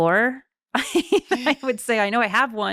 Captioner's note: laughing